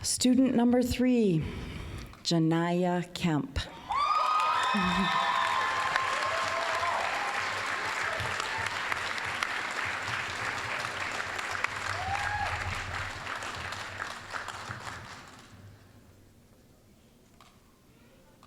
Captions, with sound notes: Student number three, Janaiya Kemp. (applause, cheering) (applause)